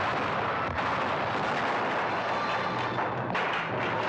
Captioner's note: cannons firing; wall crashing in